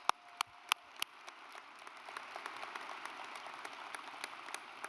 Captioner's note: audience applauds; claps